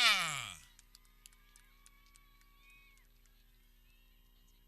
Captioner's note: people cheering